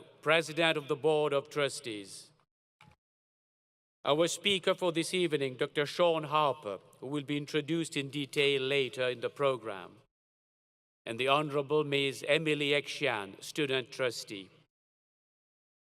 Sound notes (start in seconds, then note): none